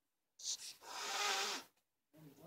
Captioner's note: hisss